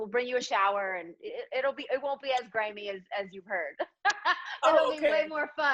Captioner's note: laughs